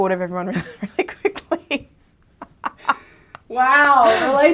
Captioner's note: laughs